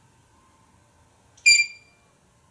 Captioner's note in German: tweet